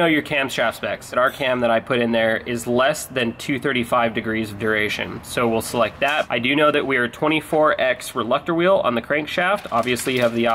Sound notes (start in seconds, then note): none